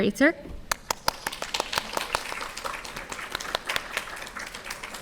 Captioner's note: audience clapping